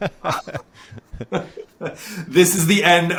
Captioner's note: laughing